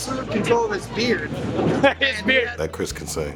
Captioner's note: laughter